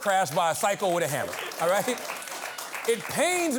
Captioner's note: applause